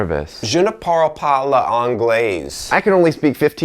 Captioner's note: speaking in foreign language